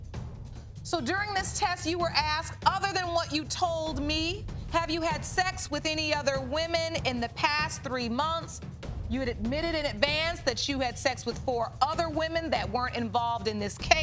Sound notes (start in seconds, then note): none